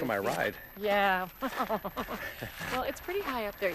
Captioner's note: laughs